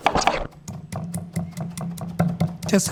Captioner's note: knife clattering; tool thumping